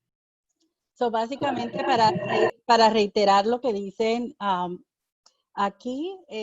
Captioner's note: speaking in foreign language